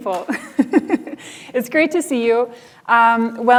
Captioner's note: laughs